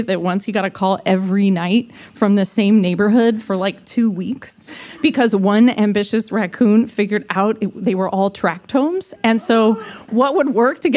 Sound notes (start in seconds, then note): none